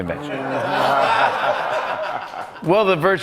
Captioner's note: laughter